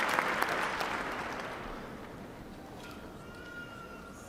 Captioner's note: applause